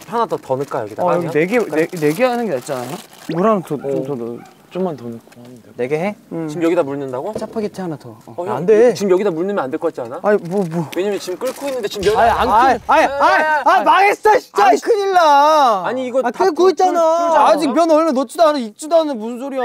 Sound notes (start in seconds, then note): 15.6 holler